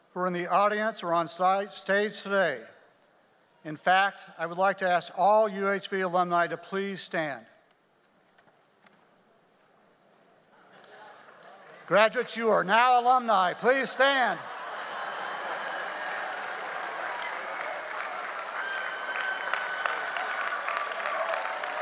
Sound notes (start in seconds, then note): 14.3 audience applauds; 14.6 audience laughs